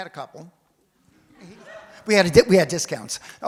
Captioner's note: audience laughs